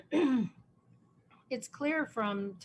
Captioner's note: clears her throat